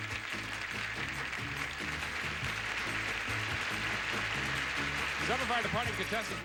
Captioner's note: audience applauding